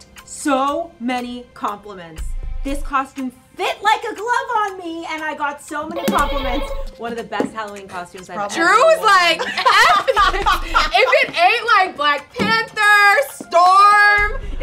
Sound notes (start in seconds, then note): 5.9 button buzzes